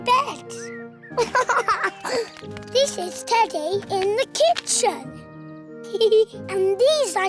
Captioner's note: giggles